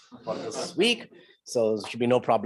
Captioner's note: laughs